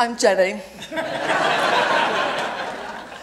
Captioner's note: laughter